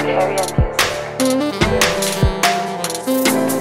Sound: automated Voice

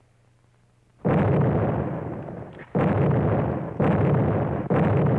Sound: explosions booming

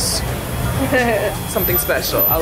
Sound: laughs

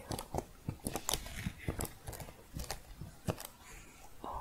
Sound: typing continues

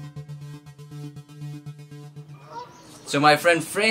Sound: goose honking

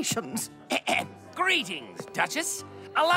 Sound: clears throat

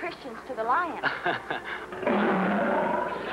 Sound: laughs uncomfortably; lion roars

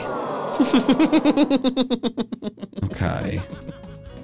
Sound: laugh

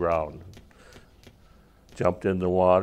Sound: gunfire

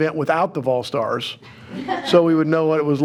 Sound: attendees chuckling

